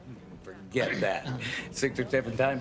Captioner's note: clears throat